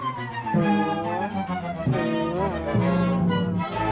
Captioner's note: balloon boings